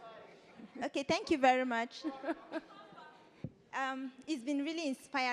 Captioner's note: laughs